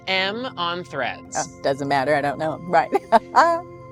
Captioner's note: chuckles